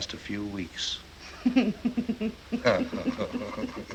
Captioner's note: chuckling